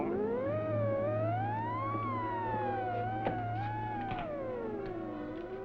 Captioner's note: scanner humming wildly